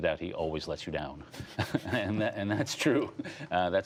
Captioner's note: laughter